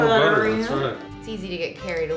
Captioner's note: murmurs